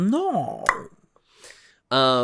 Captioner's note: tongue pop